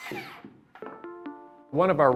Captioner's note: electric saw whirring